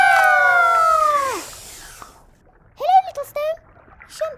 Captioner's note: kingfisher slurps